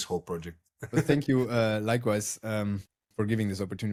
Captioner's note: laughs